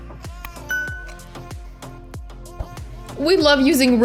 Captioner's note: upbeat music; bell dinging